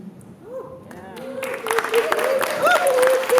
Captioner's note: applause